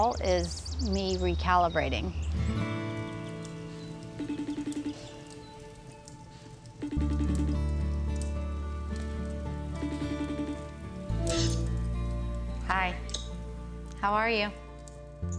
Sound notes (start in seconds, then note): 4.2 phone ringing